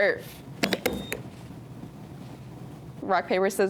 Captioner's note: buzzer beeps